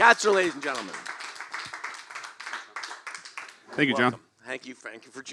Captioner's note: applause